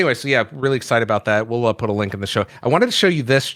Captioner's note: none